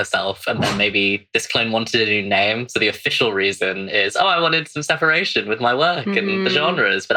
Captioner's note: laughs